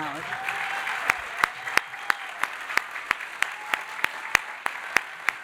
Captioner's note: audience applauding